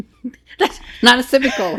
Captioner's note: laughing